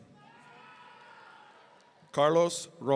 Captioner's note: audience cheering